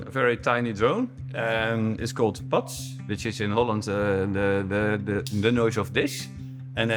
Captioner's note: cheek slap